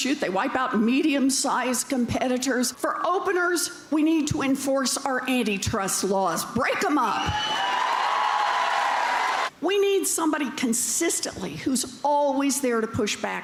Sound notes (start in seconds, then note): 7.2 cheers and applause